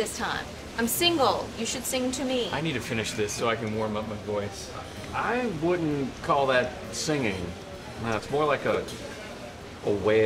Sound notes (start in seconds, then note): none